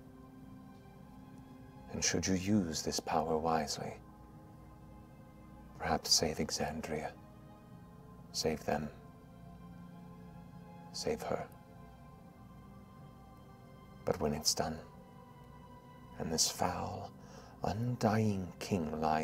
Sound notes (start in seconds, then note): none